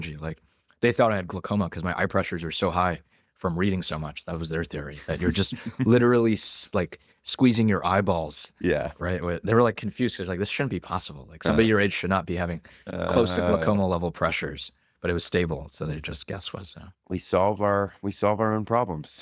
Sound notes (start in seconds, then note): 5.1 laughs